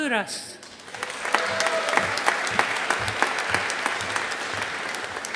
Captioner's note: audience applauding